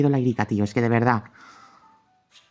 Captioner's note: catching breath